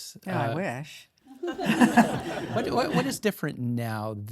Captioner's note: audience applauding